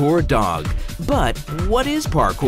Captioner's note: Vietnamese